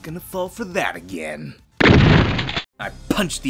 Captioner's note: gunshot